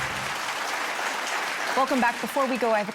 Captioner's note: audience clapping